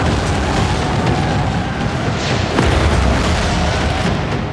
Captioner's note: tires screeching